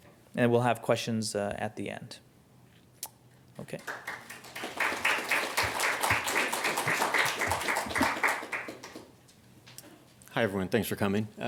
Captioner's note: applause